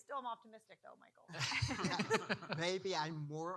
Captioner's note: panel laughing